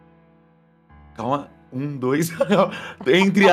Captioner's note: laughs